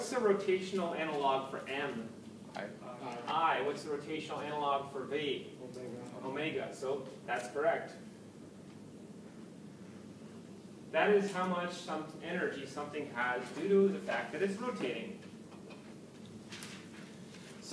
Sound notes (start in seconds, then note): 2.3 background comments; 5.4 background comments